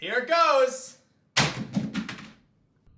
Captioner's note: banging sound